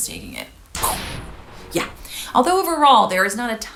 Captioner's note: imitating explosion